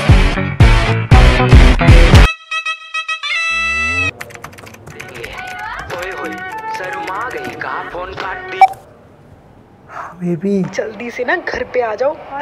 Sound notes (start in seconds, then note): 5.2 phone ringing